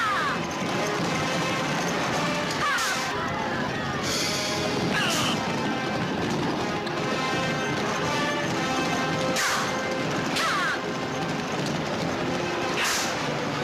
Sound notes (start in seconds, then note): 4.9 grunting; 10.6 dramatic music